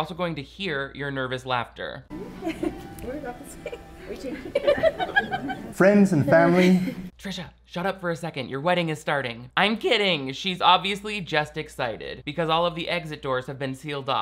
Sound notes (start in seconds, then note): 4.4 Trisha laughing nervously